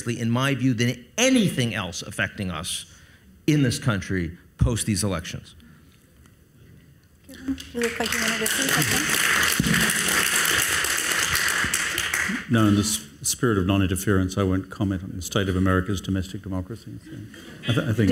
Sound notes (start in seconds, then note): 7.4 audience applauds